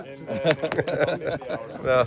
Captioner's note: laughing